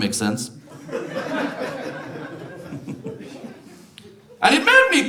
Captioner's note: audience laughs